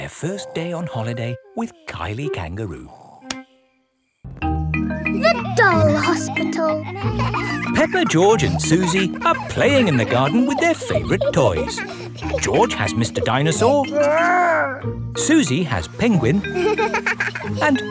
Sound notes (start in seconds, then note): 7.1 kids laughing; 16.4 giggles